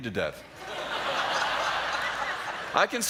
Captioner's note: laughter